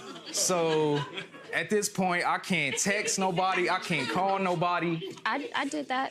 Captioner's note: audience laughs